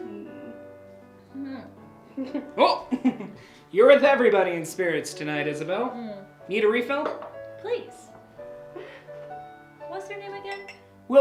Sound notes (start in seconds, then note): 2.2 Isabel chuckling